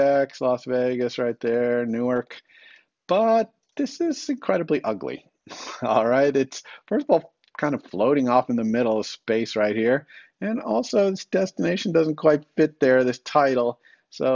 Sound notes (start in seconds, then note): 5.5 chuckles